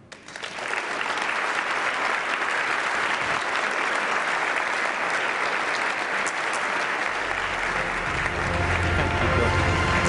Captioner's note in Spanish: Aplausos